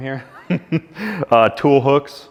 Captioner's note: chuckles